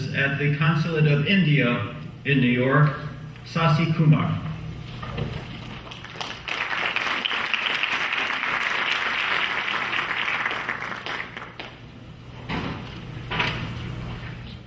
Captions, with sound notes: at the Consulate of India in New York, Sasi Kumar. (clapping)